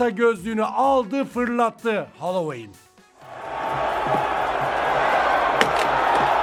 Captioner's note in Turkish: coşkulu tezahürat